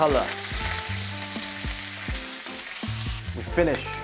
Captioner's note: sizzling sound